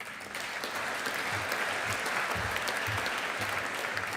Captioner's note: audience applauding